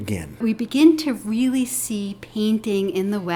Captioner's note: voiceover